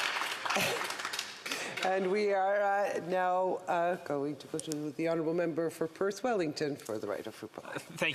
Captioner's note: some Applause